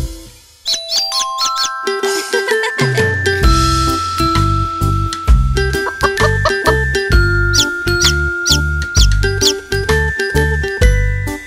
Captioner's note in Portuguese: Som de galinhazinha; som de pintinho